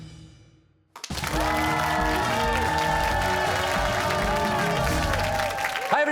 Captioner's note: cheers and applause